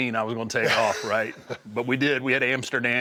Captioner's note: laugh